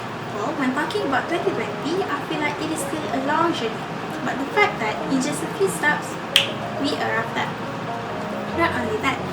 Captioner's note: finger clicks